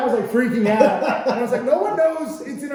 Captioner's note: laughing